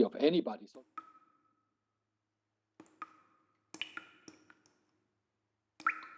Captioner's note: dripping water sound